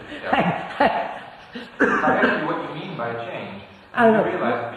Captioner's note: laughs